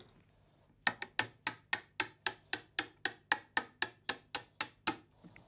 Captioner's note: tapping lightly